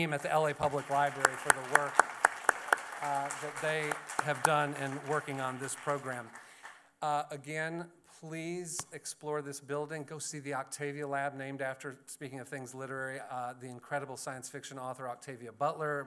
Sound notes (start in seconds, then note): 6.3 applause